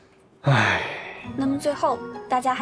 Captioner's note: sigh